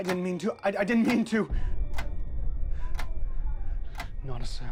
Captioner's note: clock keeps ticking